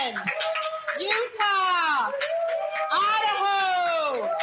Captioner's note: crowd cheering